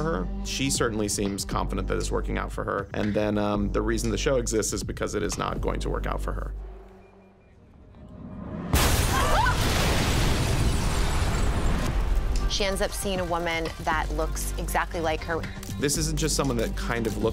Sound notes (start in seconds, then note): 8.2 explosion; 9.0 screams